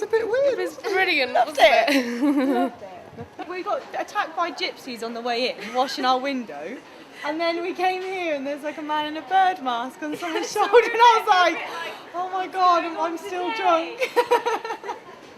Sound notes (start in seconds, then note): 1.8 chuckles